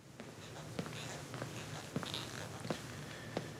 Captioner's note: footsteps patter